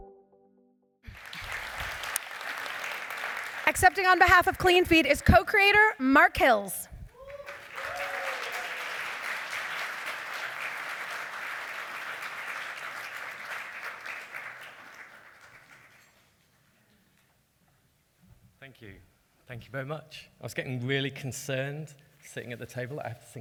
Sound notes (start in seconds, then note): 1.0 applause; 12.6 applause